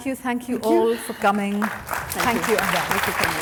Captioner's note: attendees applauding